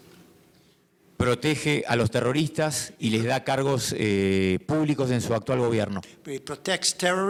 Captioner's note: speaking in foreign language